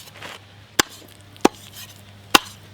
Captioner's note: chops